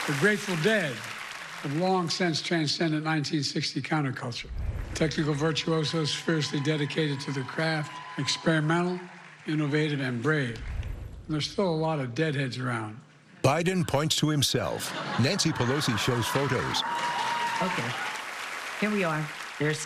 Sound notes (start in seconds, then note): 14.6 laughter; 14.8 cheering and applause